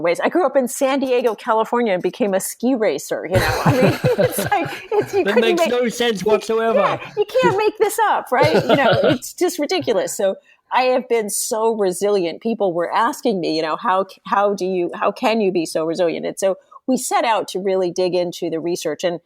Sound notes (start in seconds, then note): 3.3 laughs